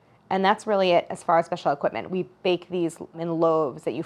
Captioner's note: none